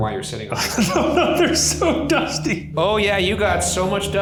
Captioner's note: laughing